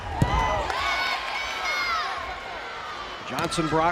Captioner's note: players yelling